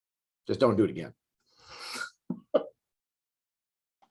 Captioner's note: chuckles